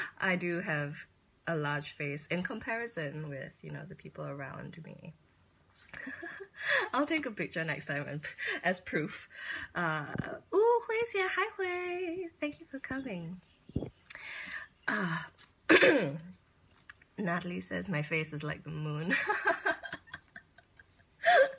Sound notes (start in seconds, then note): 6.4 laughs; 15.7 clears throat; 19.2 laughs